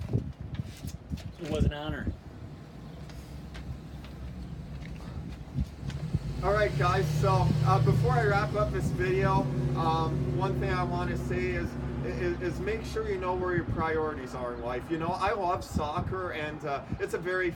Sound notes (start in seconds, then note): 5.3 vehicle accelerates